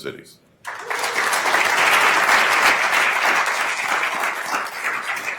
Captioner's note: attendees applauding